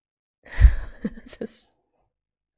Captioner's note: laughs